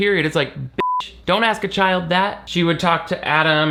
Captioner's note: beep